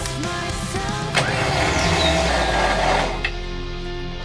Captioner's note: engine revving